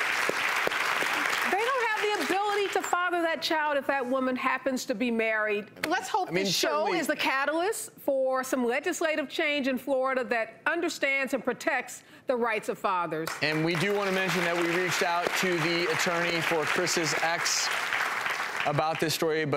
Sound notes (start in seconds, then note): 13.2 applause